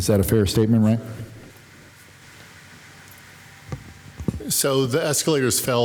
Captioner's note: speaking faintly